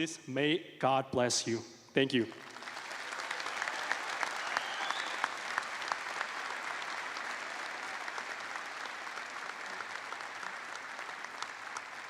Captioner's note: applause